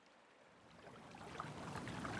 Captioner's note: water lapping